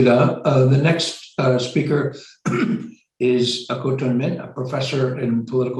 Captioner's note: clears throat